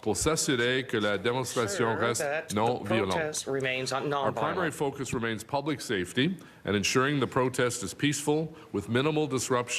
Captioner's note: speaking french